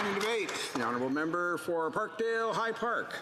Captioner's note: applause